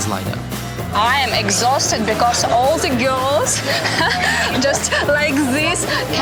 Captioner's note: laughs